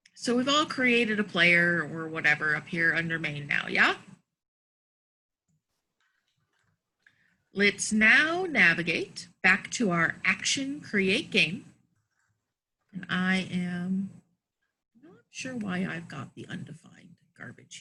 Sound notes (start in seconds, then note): none